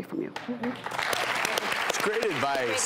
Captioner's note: clapping